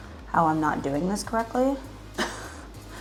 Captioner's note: laughs